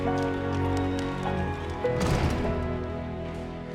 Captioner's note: door slams